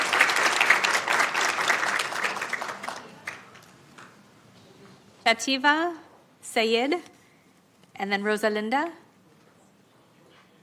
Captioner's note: applause